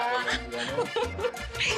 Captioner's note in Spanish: Risas